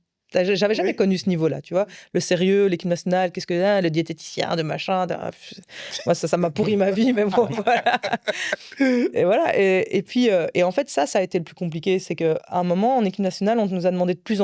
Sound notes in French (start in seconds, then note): 6.7 rires